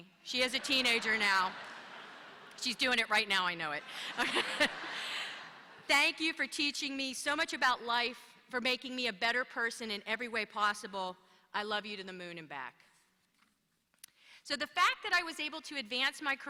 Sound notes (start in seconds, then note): 0.4 laughter